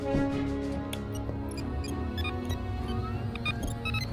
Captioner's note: electronic sounds